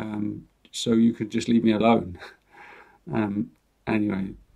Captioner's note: chuckles